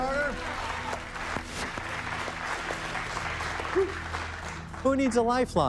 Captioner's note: applause